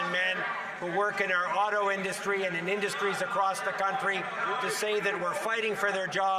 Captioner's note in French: voix de l'interprète